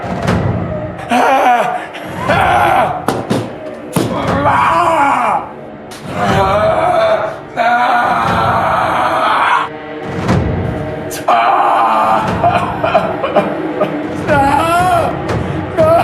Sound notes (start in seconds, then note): 0.3 Adam yelling; 5.5 dark droning music; 6.1 Adam groaning